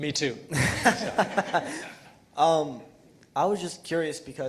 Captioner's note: laughing